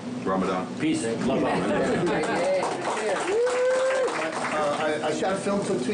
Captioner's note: group applauding